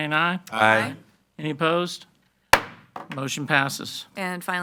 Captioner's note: gavel banging